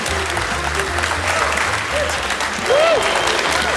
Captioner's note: audience applauding